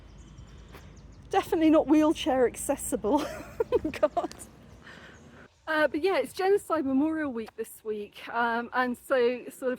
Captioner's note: laughing